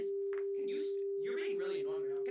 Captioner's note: double voice